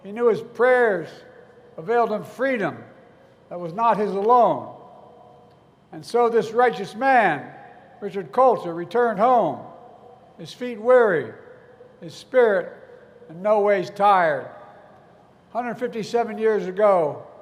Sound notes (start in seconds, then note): none